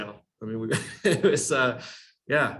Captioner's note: chuckles